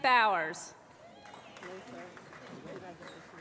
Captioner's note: applause